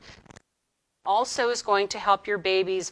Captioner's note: audio distorting